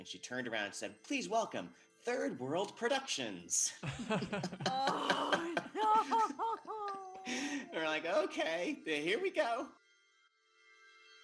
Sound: laughter

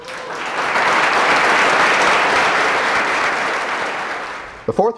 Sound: applause

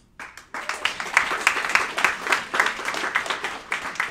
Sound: clapping

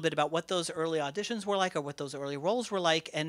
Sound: none

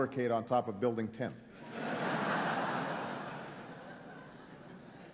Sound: laughing

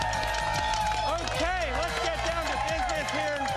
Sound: applause

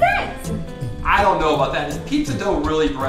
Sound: voiceover

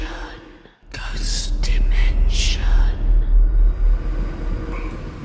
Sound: whispering Voices

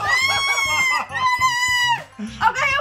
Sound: squealing

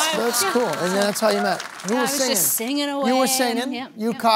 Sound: applause

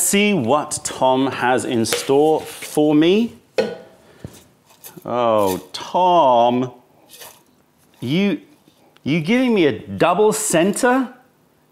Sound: opening can

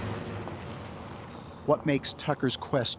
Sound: truck driving

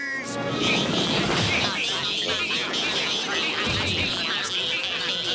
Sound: repeating "meep" over and over

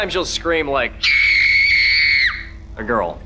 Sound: screaming

